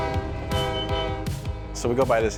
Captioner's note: train horn blowing; upbeat music